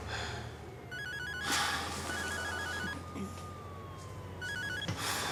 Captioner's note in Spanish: suena un celular